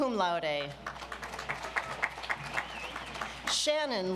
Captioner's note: audience applauds